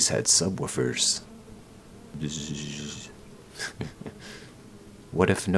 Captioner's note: bzzzzz